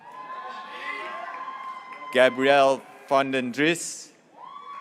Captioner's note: graduates cheering